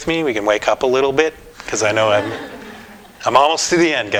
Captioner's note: audience: Laughter